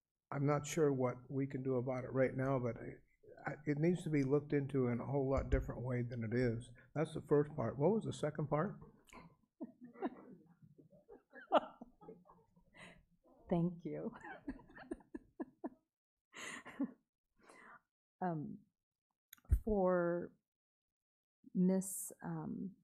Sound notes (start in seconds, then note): 10.5 laughs